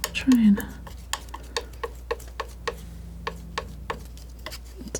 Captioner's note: tapping